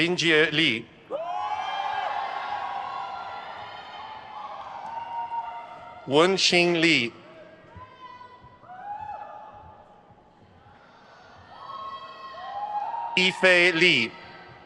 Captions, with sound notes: Linjie Li. (crowd cheers) Wenxing Li. (crowd cheers) Yifei Li.